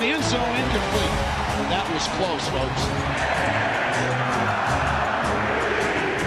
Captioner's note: crowd chanting